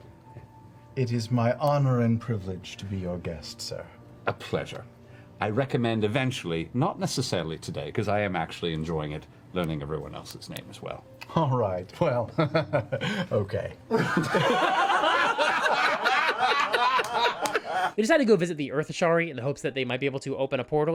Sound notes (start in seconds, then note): 13.9 all laugh